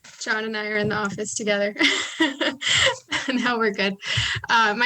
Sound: chuckles

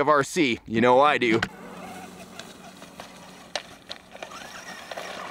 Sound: engine whirring

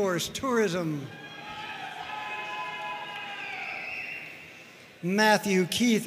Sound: audience cheering and applauding

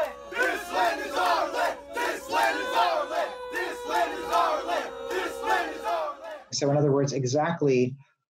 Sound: chanting

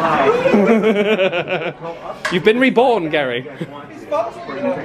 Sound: laughs

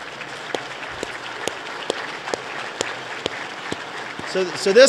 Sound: applause

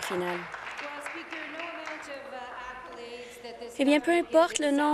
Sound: applause

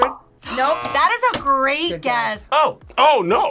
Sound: buzzer; buzzer rings; gasps

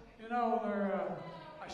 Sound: crowd noise

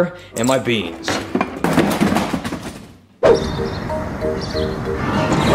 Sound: can, bottles clanking; gentle music

